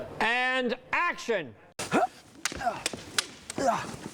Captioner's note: grunting